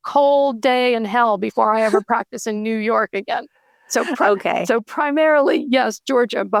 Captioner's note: chuckling